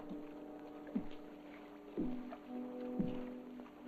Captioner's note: Boyle's footsteps approaching